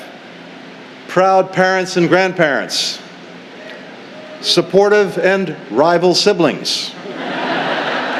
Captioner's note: laughter